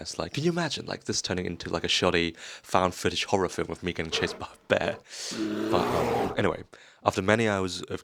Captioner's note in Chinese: 熊音效